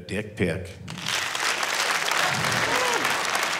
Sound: crowd applauds

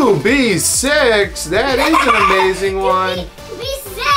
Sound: giggles

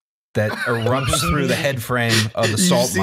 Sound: laughter

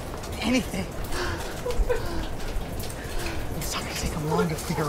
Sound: crying, unintelligible

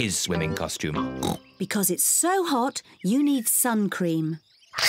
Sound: oinks

